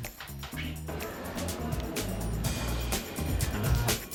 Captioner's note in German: Stimmengemurmel von draussen